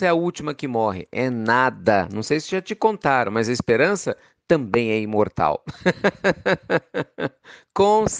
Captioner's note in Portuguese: Risos